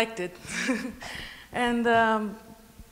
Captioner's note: laugh